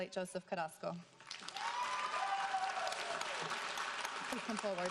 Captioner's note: audience cheering